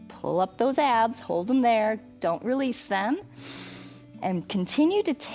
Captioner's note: inhales